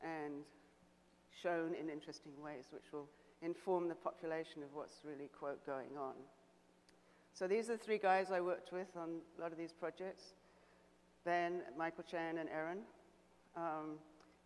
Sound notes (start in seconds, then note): none